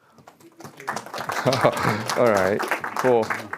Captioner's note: audience applauding